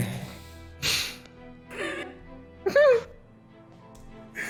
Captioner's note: laughs